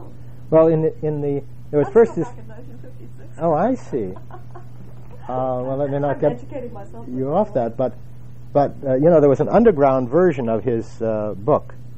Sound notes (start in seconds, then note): 3.9 laugh